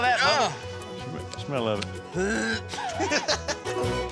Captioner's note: dry heaving; laughing